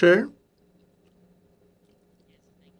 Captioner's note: speaking in French